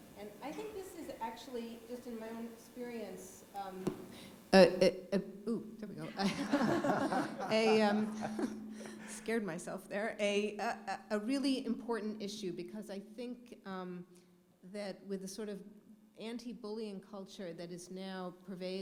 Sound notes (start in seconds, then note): 3.6 laughter